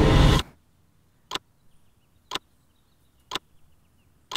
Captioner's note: ticking